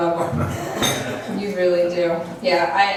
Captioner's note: laughs